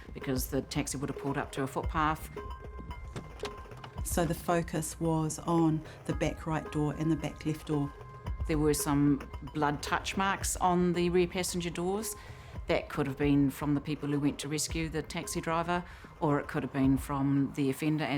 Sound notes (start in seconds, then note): 2.9 door clicks; 3.2 dramatic music continues